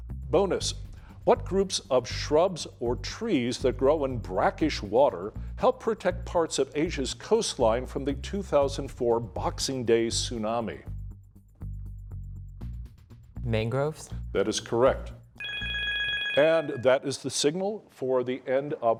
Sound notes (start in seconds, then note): 15.4 bell ringing